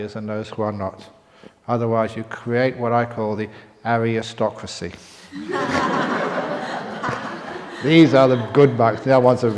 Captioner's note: laughter